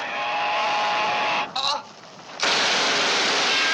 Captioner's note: groaning